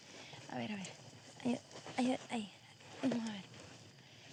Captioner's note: speaking spanish